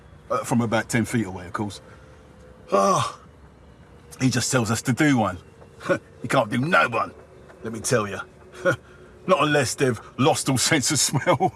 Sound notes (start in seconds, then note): 2.7 he exclaims